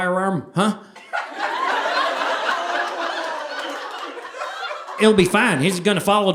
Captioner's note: audience laughing